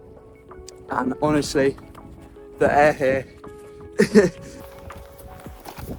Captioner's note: laughs